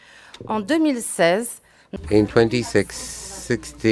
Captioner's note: speaking in French